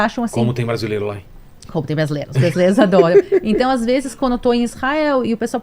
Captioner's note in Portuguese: risadas